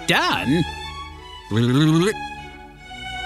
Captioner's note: nerd noise